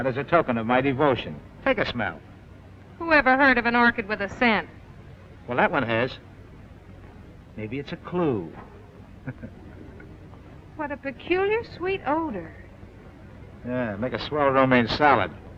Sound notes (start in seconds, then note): 9.2 chuckles